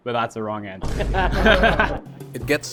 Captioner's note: laughs